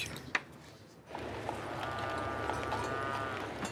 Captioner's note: cattle lowing